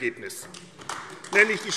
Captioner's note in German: Beifall AfD